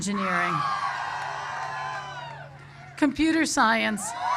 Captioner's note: cheers